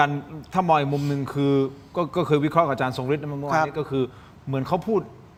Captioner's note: sound of inhaling